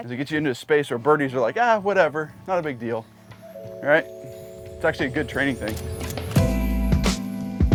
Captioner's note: none